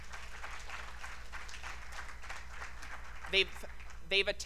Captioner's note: applause